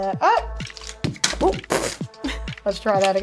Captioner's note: plastic thud